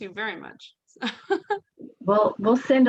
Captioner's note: chuckles